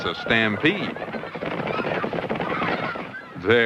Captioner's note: clomping footsteps